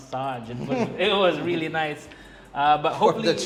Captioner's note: chuckles